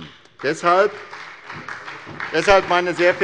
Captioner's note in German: Beifall bei der SPD